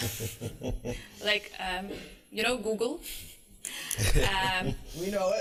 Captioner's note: laughter